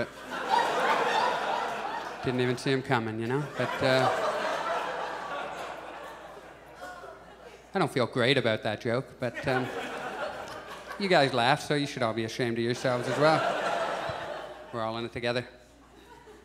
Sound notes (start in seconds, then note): 0.0 audience laughs; 9.3 audience chuckles; 12.6 audience laughs